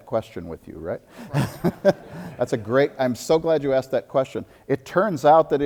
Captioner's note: audience laughter